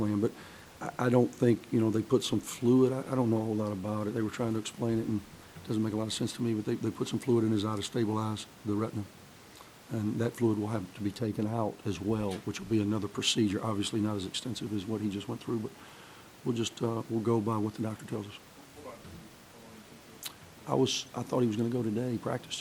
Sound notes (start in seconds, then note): 18.3 voiceover